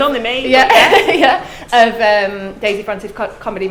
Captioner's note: laughs